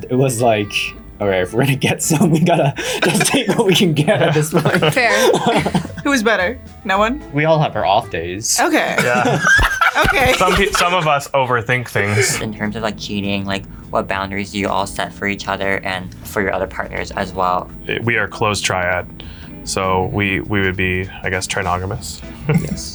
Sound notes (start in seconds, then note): 8.6 laughs